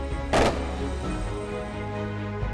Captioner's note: gunshots firing; inspiring music